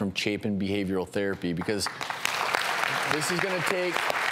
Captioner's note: applause